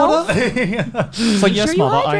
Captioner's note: laughs